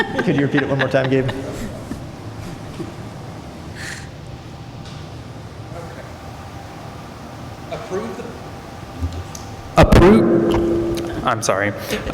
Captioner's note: laughter